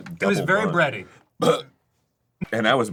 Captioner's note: burps